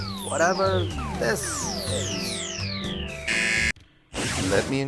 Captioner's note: laser beep continues